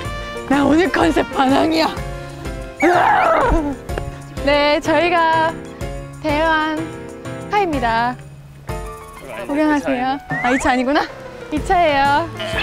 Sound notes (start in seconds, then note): 0.0 the wind; 2.8 roaring